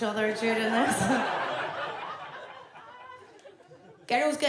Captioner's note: audience laughs